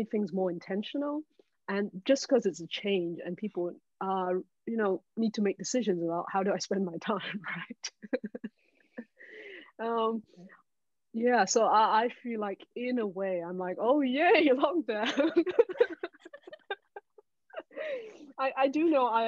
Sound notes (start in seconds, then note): 8.5 laughing; 15.1 all laughing